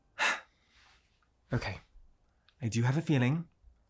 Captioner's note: sighs